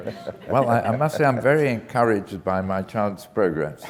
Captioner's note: laugh